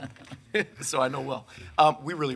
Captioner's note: people chuckling